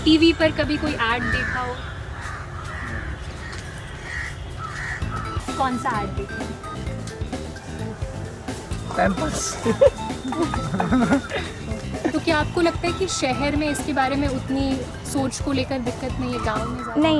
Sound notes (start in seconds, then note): 2.4 crows cawing; 9.5 laughter